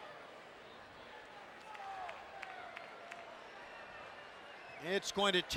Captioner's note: applause